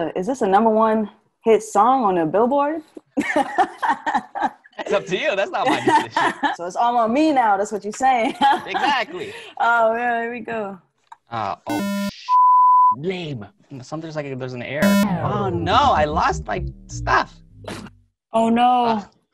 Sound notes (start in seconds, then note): 4.2 laughs; 8.5 laughs; 11.7 beep; 14.8 buzzer vibrates